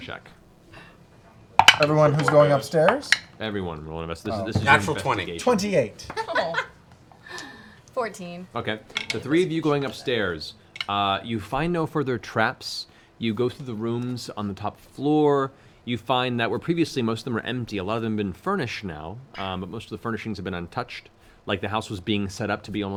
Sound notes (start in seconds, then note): 7.9 laughs